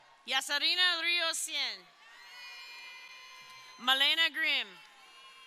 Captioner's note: crowd cheering